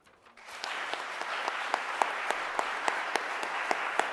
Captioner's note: audience applauding